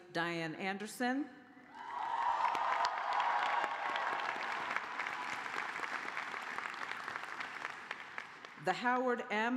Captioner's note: cheers and applause